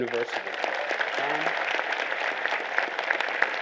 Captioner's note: applause